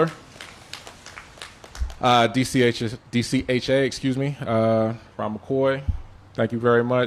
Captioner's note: applause